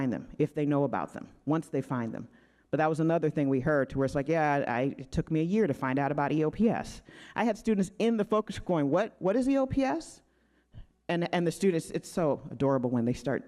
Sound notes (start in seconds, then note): none